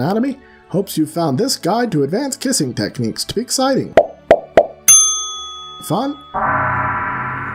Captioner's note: pop pop pop ding; gong